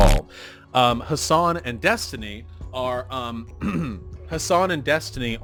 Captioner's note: clears throat